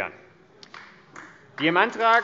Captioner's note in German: Beifall AfD